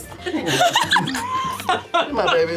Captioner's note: laughter